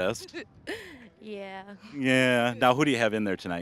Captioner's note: laughing